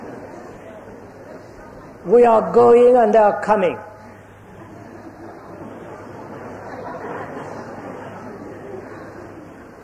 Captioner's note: laughter